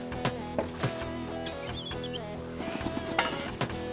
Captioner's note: hammer Tapping